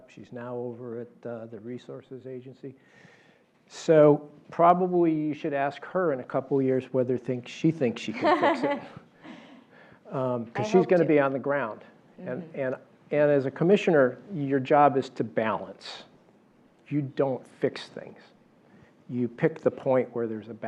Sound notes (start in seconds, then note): 8.2 laugh